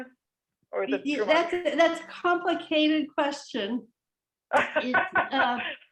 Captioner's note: laughter